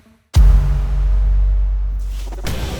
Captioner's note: audio hit; intense music